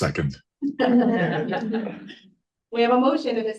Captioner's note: all chuckling